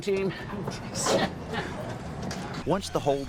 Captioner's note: laughter